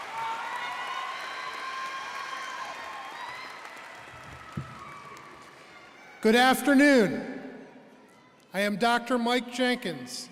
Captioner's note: applause